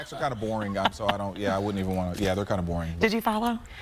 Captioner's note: laughter